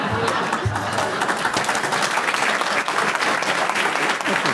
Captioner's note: audience clapping; audience laughing